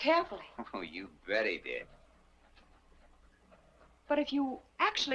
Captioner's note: chuckles